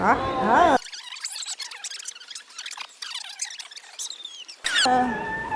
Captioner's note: tape squeaks as it fast forwards